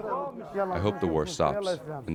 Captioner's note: through translator